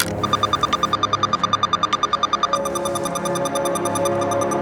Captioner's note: machine beeps